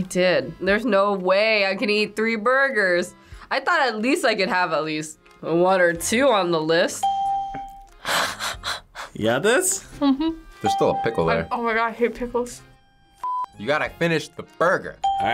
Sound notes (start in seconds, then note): 7.0 laughs; 7.0 bell rings; 10.6 bell rings